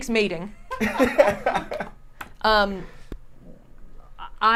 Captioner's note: laughs